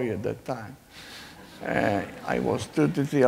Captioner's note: laughing